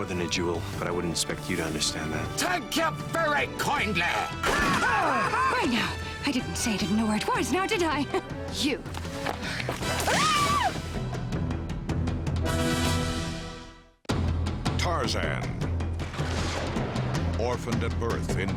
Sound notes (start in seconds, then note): 4.4 gun firing; 4.8 laughing; 10.0 screaming; 13.2 epic music